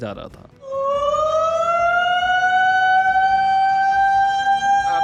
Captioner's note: man imitating a siren